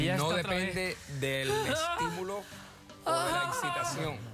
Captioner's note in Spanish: gemidos